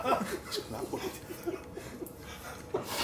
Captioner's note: laughs